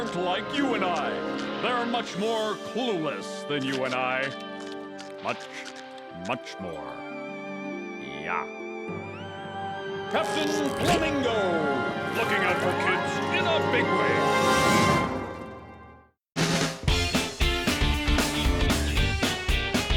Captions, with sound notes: They are much more clueless than you and I. (crunching sounds) Much, much more. (spooky music) Yeah. (spooky music) Captain Flamingo looking out for kids in a big way. (upbeat music)